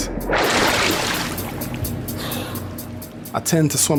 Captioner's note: water splashing